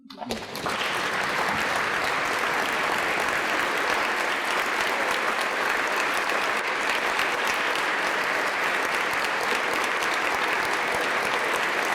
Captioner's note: applause